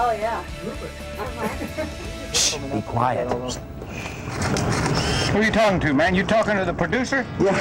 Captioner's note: laughter